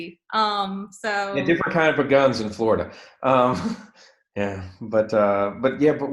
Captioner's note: laughs